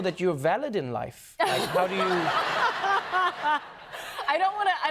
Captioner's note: laughter